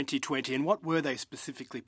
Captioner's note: speaking in French